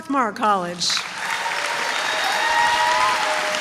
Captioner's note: applause